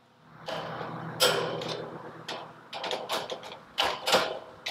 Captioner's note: cutter clicks